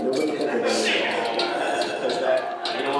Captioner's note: laughter